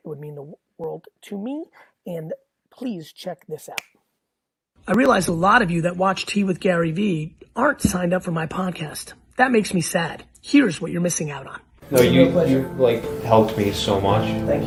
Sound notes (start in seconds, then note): 3.7 snaps finger